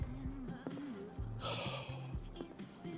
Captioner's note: Austin sighs